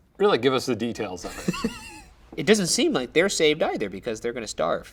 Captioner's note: laughs